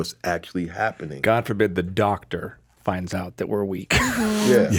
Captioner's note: laughs